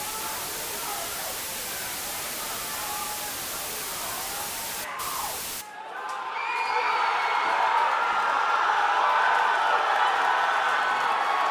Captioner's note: cheers and applause